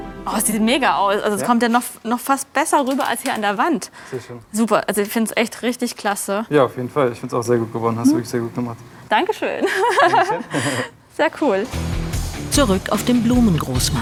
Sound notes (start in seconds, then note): 9.6 lacht